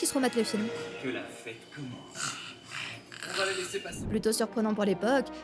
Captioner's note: sounds of the film and snoring